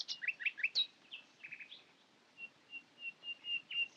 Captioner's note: birds continue chirping